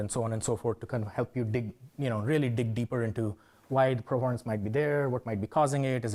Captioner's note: none